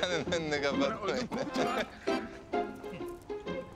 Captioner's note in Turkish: Gülüyor